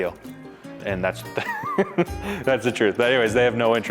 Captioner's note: laughs